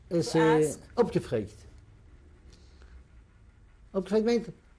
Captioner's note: non-english